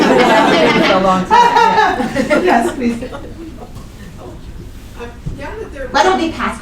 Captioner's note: laughter